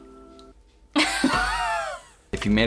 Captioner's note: both laughing